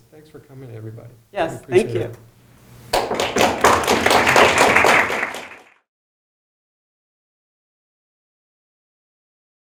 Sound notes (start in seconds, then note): 2.9 applause